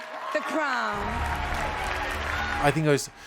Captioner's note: audience cheering